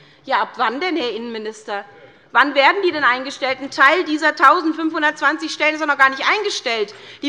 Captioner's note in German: none